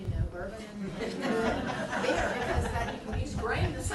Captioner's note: laughing